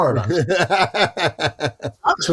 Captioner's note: laughing